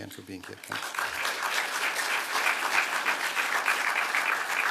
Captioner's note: applause